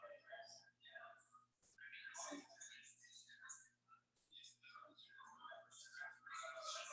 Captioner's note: people chattering indistinctly